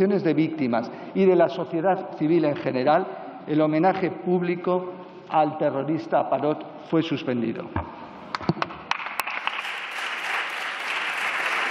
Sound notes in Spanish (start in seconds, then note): 8.8 Aplausos